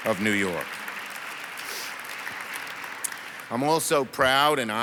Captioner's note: audience applauds